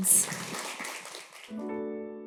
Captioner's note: applause